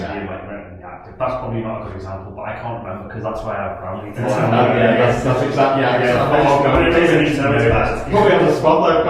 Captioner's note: everyone laughs